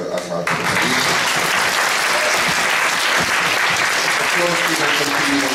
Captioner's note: applause